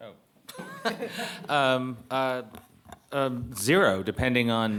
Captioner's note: audience laughing